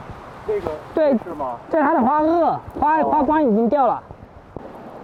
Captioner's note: speaking in foreign language